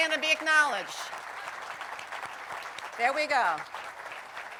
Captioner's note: applause